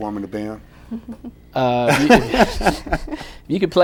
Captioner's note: laughter